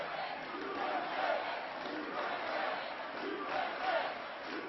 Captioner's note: applause